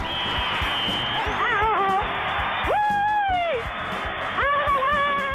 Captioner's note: whistle blows; pat